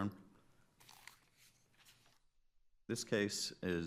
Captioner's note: paper shuffling